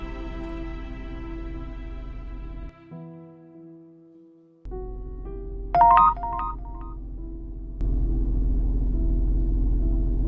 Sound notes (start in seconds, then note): 5.7 text sound; 7.9 soft music